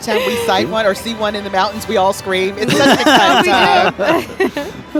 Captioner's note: laughing; holiday music